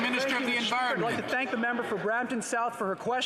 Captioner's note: some Applause